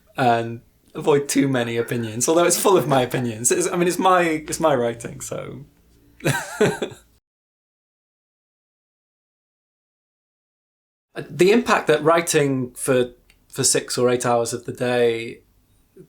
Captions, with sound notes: And avoid too many opinions, Although it's full of my opinions I mean, it's my writing so... [Laughs] The impact that writing for 6 or 8 hours of the day...